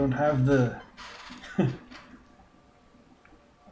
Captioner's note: chuckles